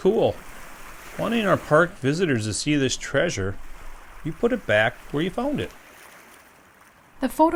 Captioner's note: waves